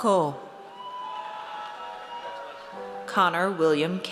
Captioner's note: audience cheers